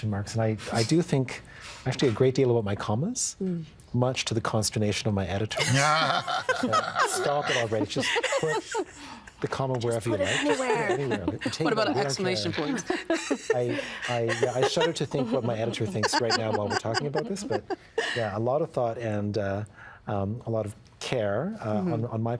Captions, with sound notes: and I do think, actually, a great deal about my commas, Mm. Much to the consternation of my editor. (All laughing) Stop it already. Just put the commas wherever you like. Just put it anywhere. What about an exclamation point? (Laughing) I shudder to think what my editor thinks right now while we're talking about this, but yeah, a lot of thought and a lot of care on my part,